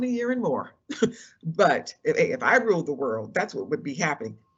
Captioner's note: laugh